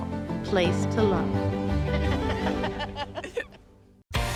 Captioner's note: both laugh